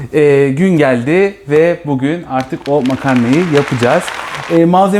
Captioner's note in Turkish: Alkış